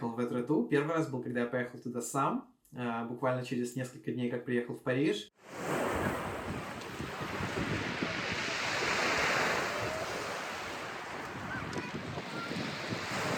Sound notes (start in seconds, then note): 5.4 wave noise